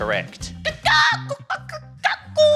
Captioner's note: clucks